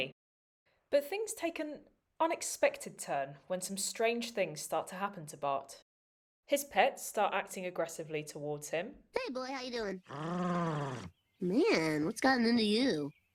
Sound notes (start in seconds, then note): 10.0 Santa's Little Helper growls